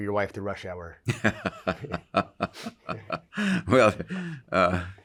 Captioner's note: laughs